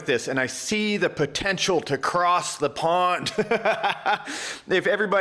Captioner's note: laughs